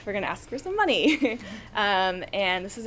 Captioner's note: chuckles